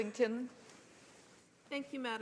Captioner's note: speaking French